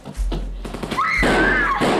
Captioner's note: guns fire